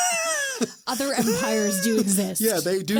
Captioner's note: both laugh